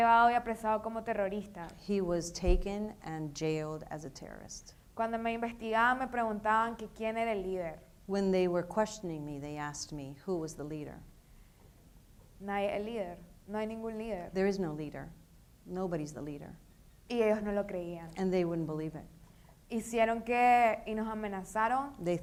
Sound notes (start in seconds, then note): 0.1 speaking in foreign language; 5.0 speaking in foreign language; 12.5 speaking in foreign language; 17.1 speaking in foreign language; 20.1 speaking in foreign language